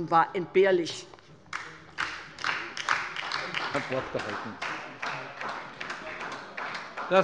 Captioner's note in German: Beifall bei der LINKEN und der SPD